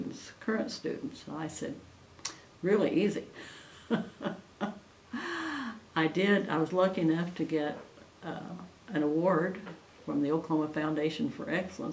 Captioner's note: laughs